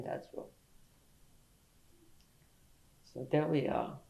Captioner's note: pauses for 3 seconds